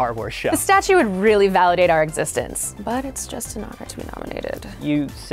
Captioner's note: quietly